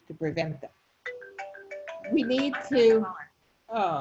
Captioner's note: phone rings